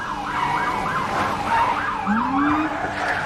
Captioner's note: tires screeching